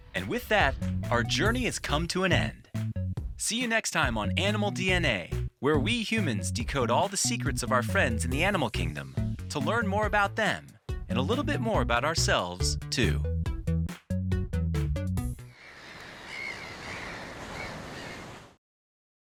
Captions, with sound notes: And with that, our journey has come to an end. See you next time on "Animal DNA," where we humans decode all the secrets of our friends in the animal kingdom to learn more about them and a little bit more about ourselves too. (upbeat music) (waves sloshing) (seagulls squawking)